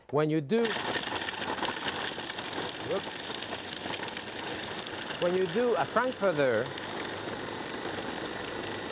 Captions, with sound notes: When you do. (food processor rattling) When you do a frankfurter.